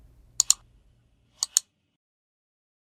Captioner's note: clicking sound